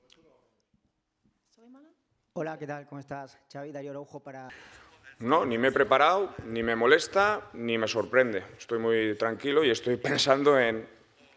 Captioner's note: Spanish